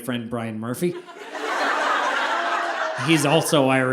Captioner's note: audience laughing